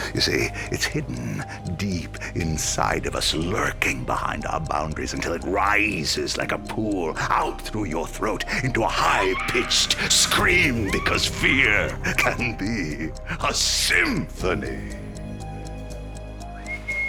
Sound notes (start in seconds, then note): 10.2 woman screams; 16.0 clock ticking; 16.5 eerie whistle